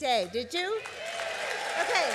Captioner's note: applause and cheering